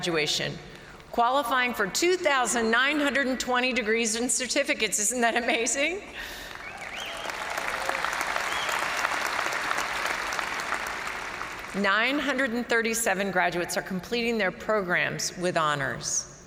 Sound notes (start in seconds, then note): 6.5 crowd applauding; 6.6 crowd cheering